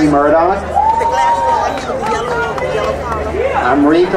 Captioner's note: crowd cheering